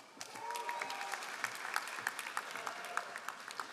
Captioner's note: all applauding